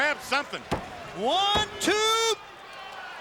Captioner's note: mat slapping